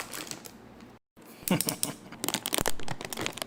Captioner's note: evil Laugh